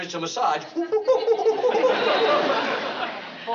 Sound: imitating chimpanzee

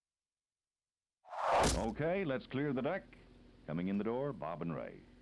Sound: radio Chatter

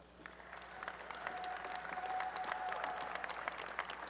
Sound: applause and cheering

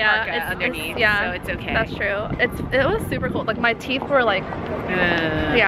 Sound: chattering

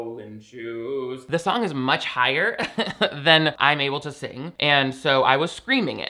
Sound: laughs

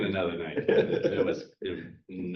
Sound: chuckle

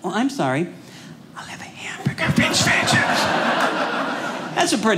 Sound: whispering

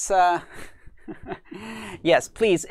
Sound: laughs

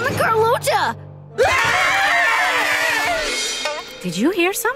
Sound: screaming

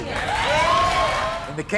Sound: audience cheers

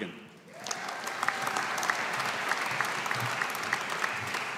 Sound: audience applauding

